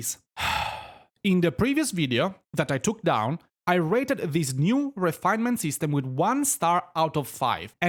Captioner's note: exhales